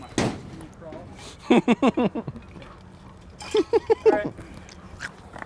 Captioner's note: laughter